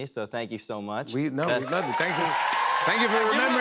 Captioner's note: cheers and applause